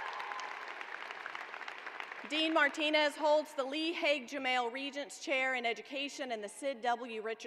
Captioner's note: cheers and applause